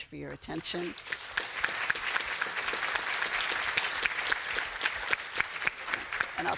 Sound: applause

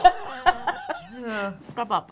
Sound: laughing

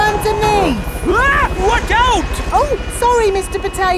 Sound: screams

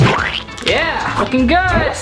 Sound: squelching

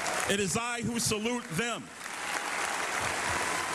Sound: cheers and applause

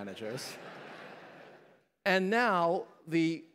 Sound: laughter

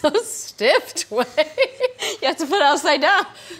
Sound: laughing

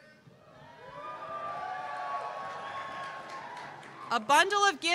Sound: cheers

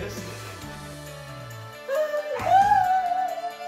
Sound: crying

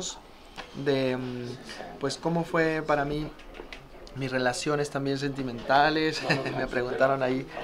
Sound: laugh

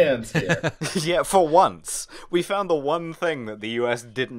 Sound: laughter

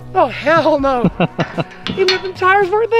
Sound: chuckles

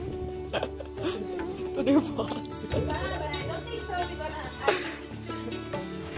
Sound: laughter

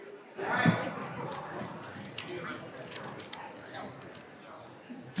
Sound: people chattering

